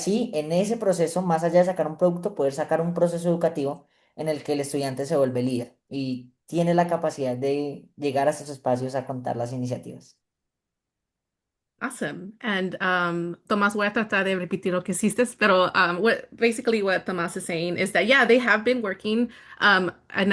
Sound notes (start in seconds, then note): 13.4 speaking spanish